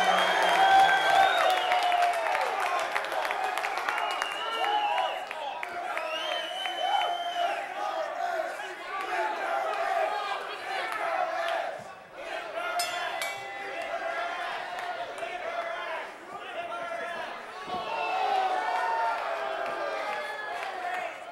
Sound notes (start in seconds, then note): 0.1 crowd cheering; 3.4 crowd chanting